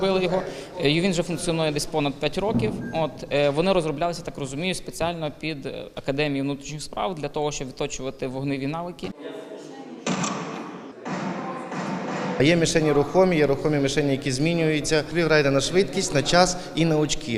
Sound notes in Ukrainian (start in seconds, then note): 10.1 Звуки пострілів